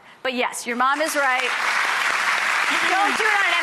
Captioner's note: audience applauds